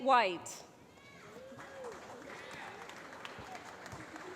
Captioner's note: applause